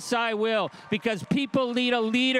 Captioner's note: crowd cheering and applauding